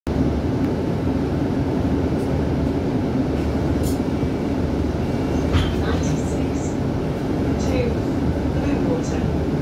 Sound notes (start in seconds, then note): 5.4 doors close